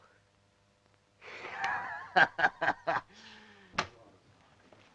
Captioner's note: laughs